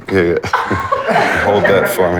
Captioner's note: laughing